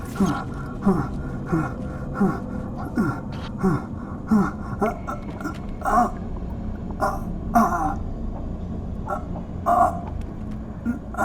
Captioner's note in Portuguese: Ofegante